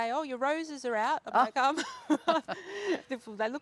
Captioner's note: both laugh